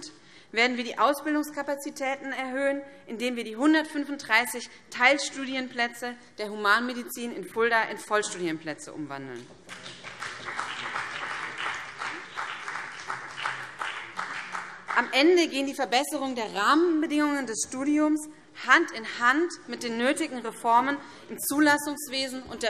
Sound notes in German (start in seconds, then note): 9.6 Beifall BÜNDNIS 90/DIE GRÜNEN